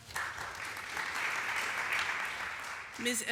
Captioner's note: applause